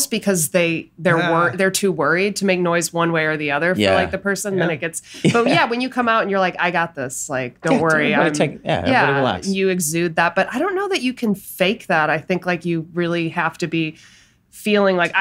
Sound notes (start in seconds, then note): 5.0 laughs